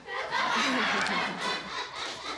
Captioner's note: all laughing